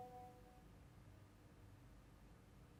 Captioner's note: notification dings